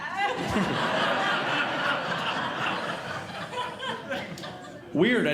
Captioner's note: audience Laughing